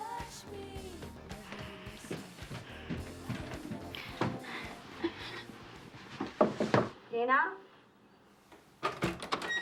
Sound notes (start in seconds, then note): 1.2 footsteps approaching; 6.4 knocking